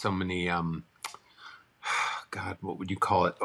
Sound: sighs

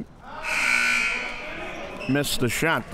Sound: buzzer sounds

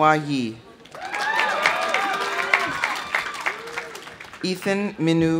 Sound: audience applauding; audience cheering

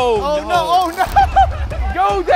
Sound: laughing

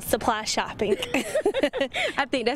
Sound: both laughing

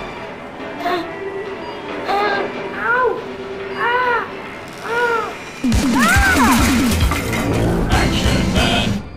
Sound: screams

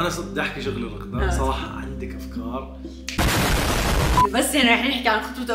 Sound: explosion

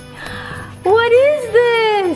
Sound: gasping

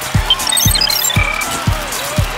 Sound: crowd cheering

